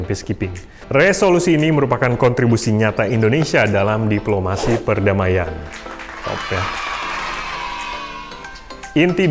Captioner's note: hand clapping